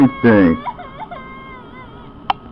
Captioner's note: Lilly crying